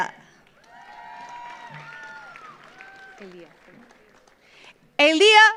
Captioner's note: audience applauds; audience cheers